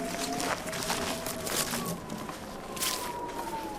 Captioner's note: wind whistling